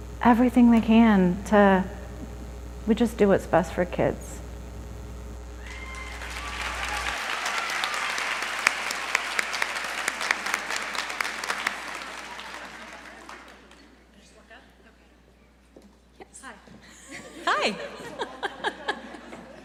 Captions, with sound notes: everything they can to. We just do what's best for kids [applause]